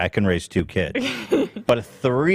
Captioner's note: laughs